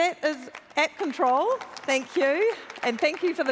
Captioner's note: applause